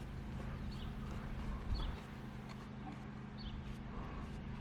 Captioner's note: birds chirping